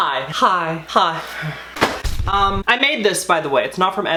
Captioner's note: flowers slamming